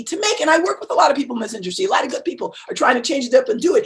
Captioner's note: murmurs